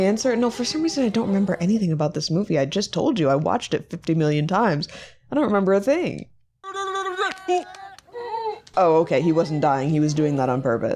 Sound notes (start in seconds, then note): 6.7 man making silly noises